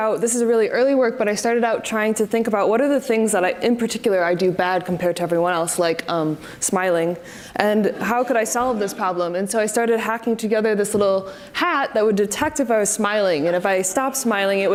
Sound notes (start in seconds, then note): 7.9 audience laughs